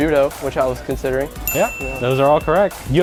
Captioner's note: bell Dings